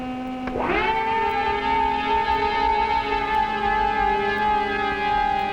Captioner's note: engine whirring loudly